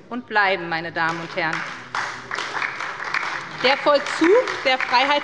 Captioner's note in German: Beifall bei der SPD und der LINKEN